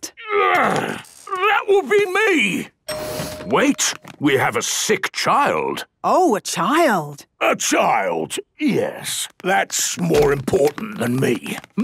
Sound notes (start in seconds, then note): 2.8 door dings open